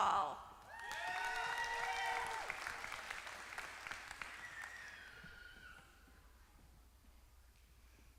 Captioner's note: applause